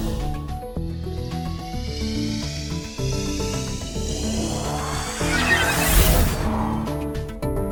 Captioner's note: whirring portal sounds